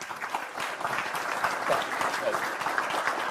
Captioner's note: clapping